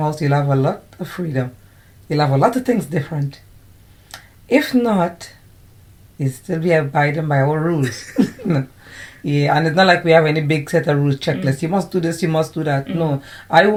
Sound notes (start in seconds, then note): 7.8 laughter